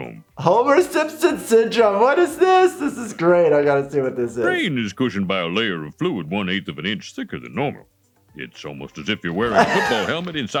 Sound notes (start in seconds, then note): 2.3 Dr. Hibbert speaking faintly